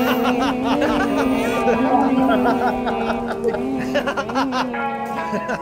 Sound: laughs loudly

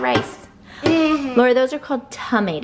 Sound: chuckles

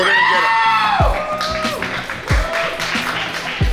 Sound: cheering & Clapping

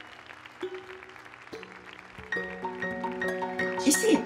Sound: applause

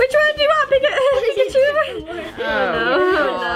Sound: laughs

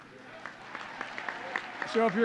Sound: applause

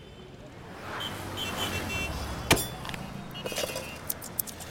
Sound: vehicles honking

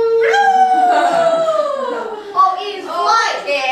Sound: cheering

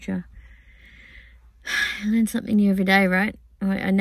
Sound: sighs

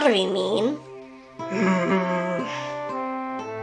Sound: grumbles

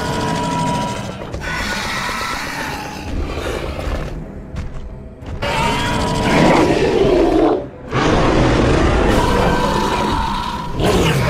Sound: screeching and roaring sounds

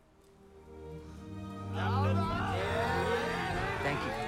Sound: cheering

